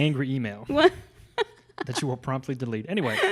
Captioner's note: laughs